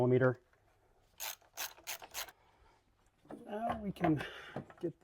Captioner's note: wrench clicking